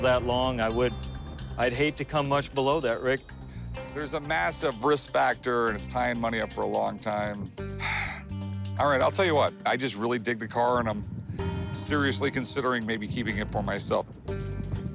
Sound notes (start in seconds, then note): none